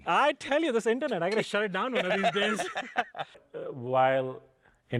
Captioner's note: laughs